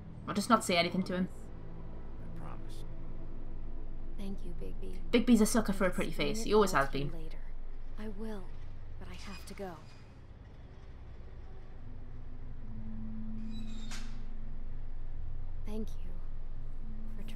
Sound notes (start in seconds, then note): none